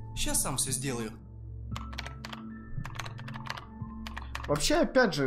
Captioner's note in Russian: звуки супер-пупер невидимой геймерской клавы